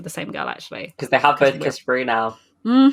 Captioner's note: laughing